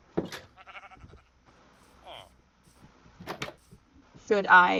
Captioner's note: awkward silence